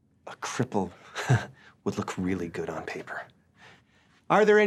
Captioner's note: laughs